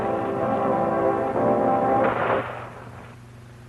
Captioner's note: gunshot